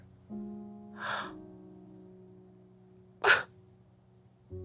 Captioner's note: gasps